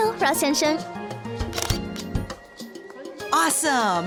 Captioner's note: camera snap